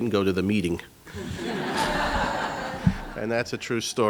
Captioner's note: laughing